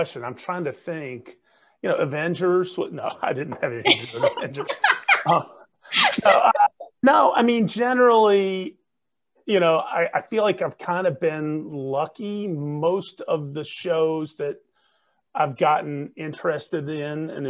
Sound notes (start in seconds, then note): 3.8 chuckles; 3.8 everyone chuckling